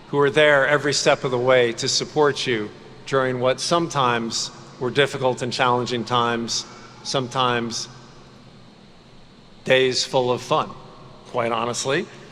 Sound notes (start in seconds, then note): none